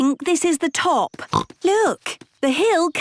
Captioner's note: snorts